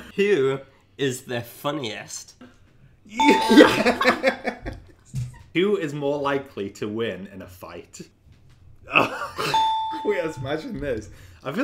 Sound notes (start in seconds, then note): 3.2 beep; 3.2 laughs; 8.8 laughs; 9.5 beep